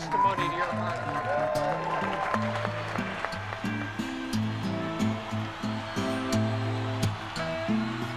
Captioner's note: applause